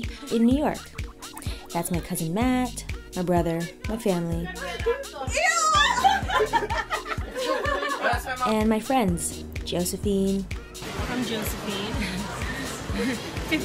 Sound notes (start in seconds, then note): 5.6 laughter